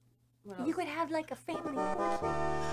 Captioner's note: quietly; drowned out by donation notification music